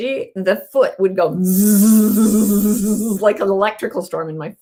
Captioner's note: mimicking electric current